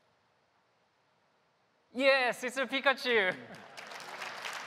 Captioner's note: applause